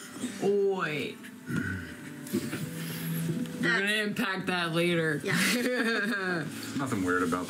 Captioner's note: laughs